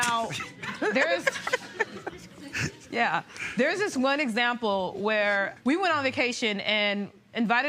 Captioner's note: laughter